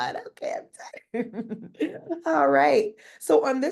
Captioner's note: laughing